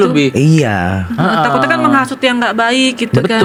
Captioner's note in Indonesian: tertawa